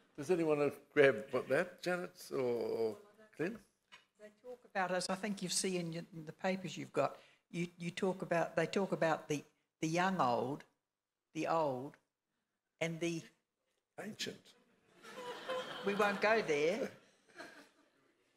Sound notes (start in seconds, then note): 15.0 laughing